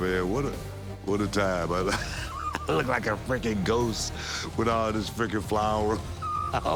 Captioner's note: laugh